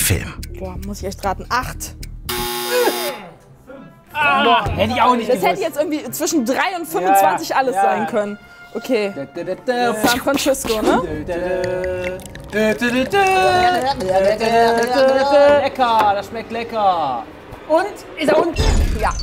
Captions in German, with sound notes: Boah, muss ich echt raten, acht. (Buzzer) Fünf. - Hätt ich auch nicht gewusst. Das hätte jetzt zwischen drei und 25 alles sein können. Okay ... San Francisco, ne? (Gespanntes Summen) Lecker, das schmeckt lecker. Und? Ist er unten? - Ja.